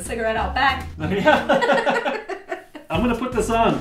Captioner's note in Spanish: se ríe